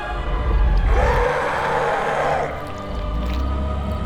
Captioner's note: creature roaring